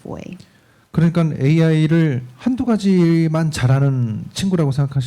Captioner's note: speaking korean